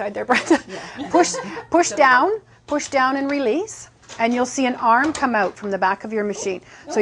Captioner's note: laughing